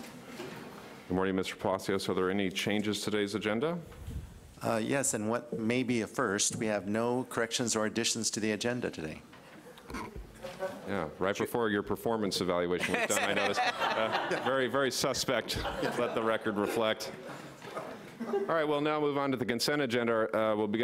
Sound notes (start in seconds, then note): 12.8 everyone laughs